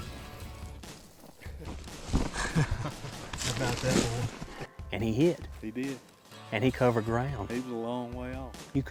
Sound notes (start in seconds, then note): 2.3 victorious laughter